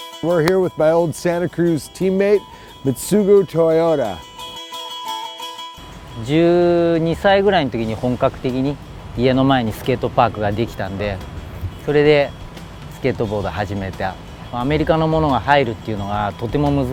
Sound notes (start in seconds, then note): 0.0 upbeat music; 6.3 speaking in foreign language